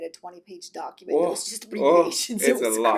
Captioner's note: laughs